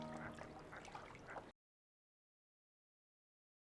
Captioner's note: ducks quacking